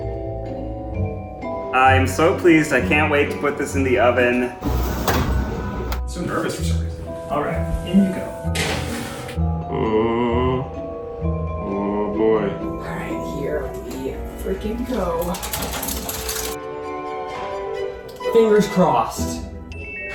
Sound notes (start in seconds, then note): 0.3 classical music; 4.6 whoosh; 9.0 thump; 15.4 crumpling; 17.2 dramatic music